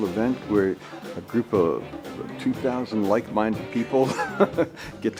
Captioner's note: laughs